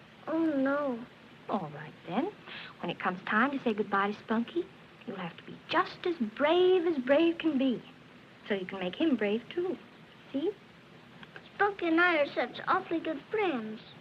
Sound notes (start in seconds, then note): none